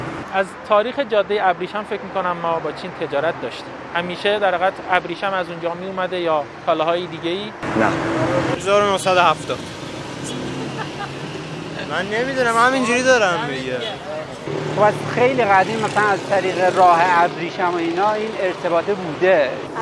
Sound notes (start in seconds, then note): 13.4 interviewer laughs intensely